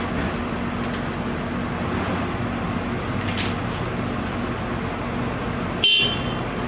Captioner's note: engine rumble